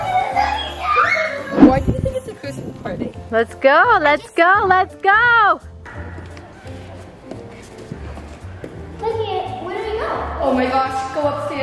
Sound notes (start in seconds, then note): 1.2 squealing; 6.9 footsteps scuffing